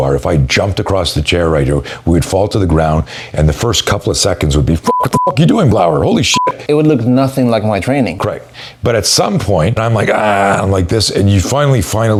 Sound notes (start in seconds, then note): 4.8 beep